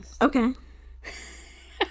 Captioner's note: laughs